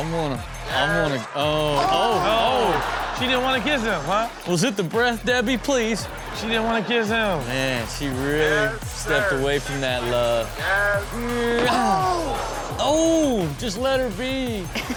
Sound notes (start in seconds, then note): 6.0 audience laughs; 11.1 Rob makes kissing noise